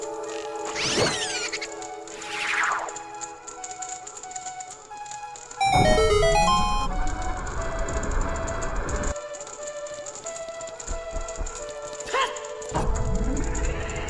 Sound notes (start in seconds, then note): 0.9 cackling